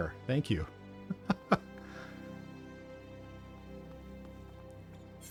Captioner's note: laughs